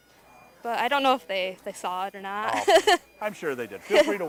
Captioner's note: chuckling